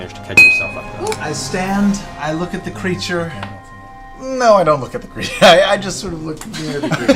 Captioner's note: laughs